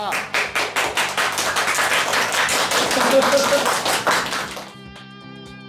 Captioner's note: all applauding